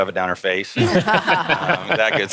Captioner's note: all laughing